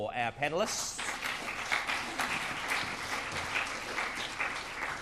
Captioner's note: applause